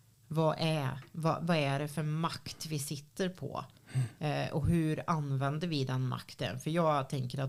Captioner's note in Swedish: harklar sig